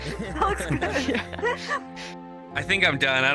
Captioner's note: all laughing